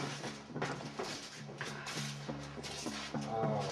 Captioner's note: murmuring